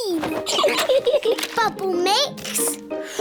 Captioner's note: both laugh